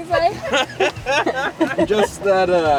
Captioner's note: group laughing